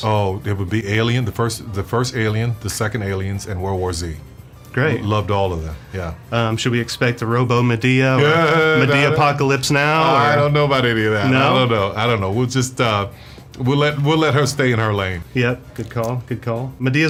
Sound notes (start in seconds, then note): 8.2 moans